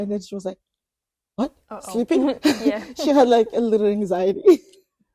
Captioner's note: laughs